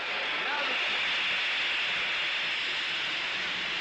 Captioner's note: steam engine hissing